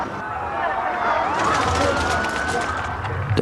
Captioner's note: distant police siren